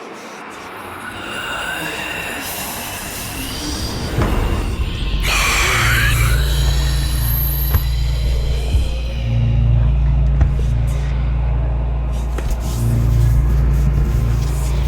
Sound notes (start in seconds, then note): 5.0 zombie screeches; 7.7 Triston thuds; 11.8 deep tense music